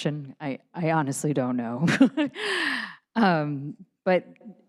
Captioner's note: laughs